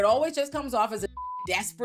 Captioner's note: beep